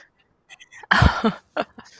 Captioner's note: laughter